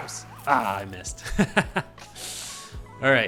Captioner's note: laugh